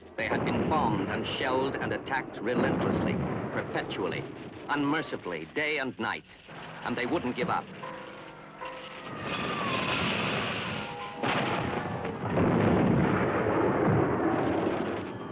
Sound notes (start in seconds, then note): 8.6 explosions; 9.2 shells whistling; 11.1 guns thudding